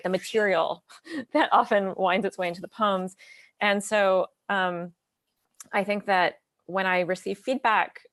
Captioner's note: lips smack